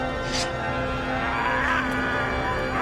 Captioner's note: sword being unsheathed; man yelling